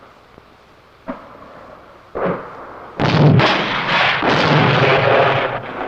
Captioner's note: explosions